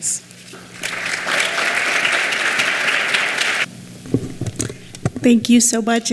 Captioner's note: clapping